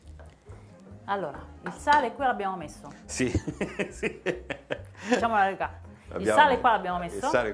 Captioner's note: laughter